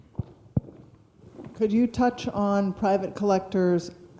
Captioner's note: voiceover